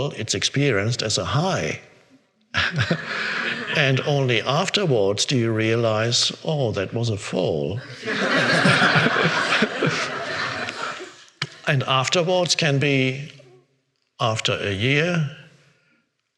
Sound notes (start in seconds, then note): 2.5 laughs; 7.8 all laughing